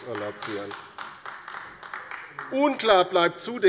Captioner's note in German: Beifall bei der LINKEN